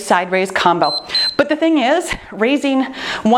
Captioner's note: timer beeps